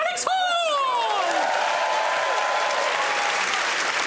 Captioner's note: cheering and applause